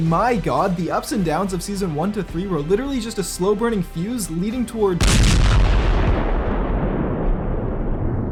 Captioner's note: boom